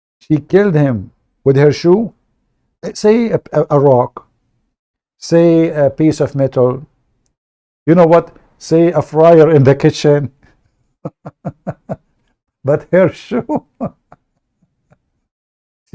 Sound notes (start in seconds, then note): 11.0 Ketawa